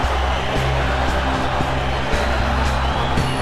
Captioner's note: crowd chanting